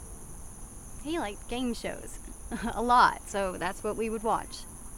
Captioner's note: scoffs